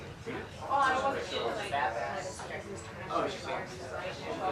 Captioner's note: patrons chattering